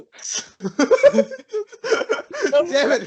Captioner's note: laughs maniacally